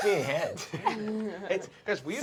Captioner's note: laughter